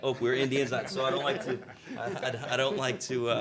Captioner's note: all chuckling